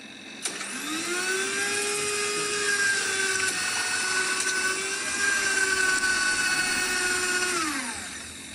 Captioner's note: blender sound